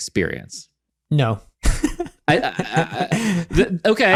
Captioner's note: laughs